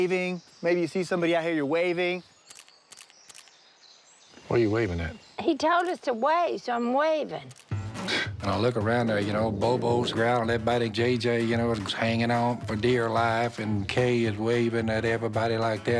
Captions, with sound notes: You see somebody out here, you're waving. [shutter clicking] What are you waving at? He told us to wave, so I'm waving. [Phil scoffs] I look around... Bobo's growling, JJ is hanging on for dear life, and Kay is waving at everybody like that.